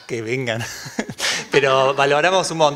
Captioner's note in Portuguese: Risos